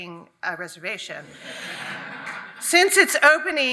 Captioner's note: audience laughs